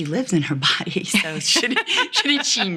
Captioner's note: woman laughs